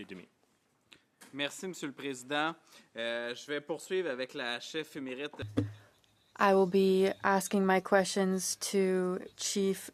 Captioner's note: speaking French